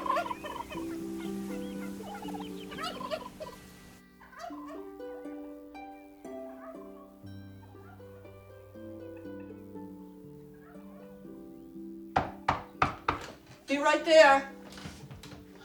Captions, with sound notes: [turkeys gobbling distantly] -[knocking] -Be right there.